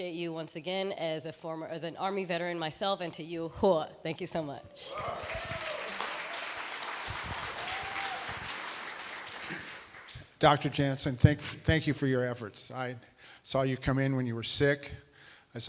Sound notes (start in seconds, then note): 4.9 applause